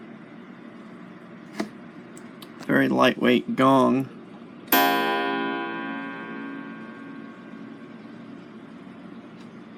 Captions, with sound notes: Very lightweight gong (strikes clapper to gong)